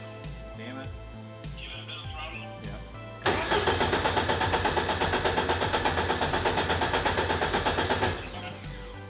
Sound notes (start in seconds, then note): 3.2 engine sputtering